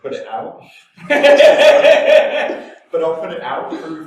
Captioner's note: both laugh